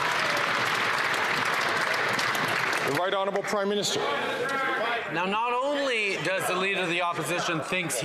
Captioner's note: some Applause